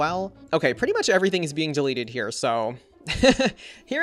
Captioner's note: laughs